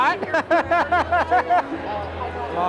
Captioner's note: laughing